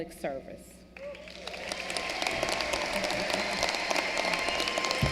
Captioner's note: applause